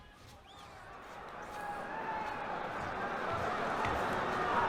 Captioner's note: weaker Cheers